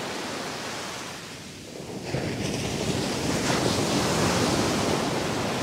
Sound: the sounds of the ocean grow softer

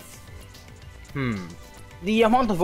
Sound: hrm

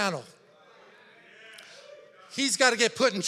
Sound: congregation chattering

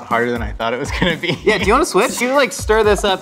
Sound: laughs

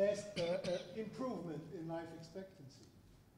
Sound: cough

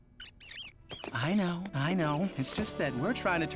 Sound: squeaking

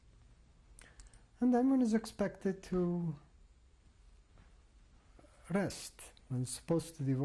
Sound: pauses for 3 seconds

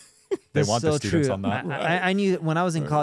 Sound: laughing; group speaking together

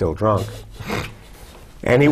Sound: chuckle

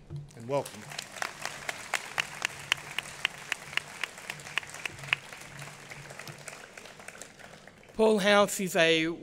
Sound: applause

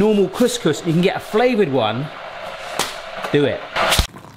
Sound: packet slaps

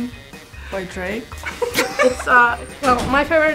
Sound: giggling

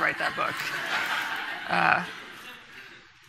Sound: audience laughing

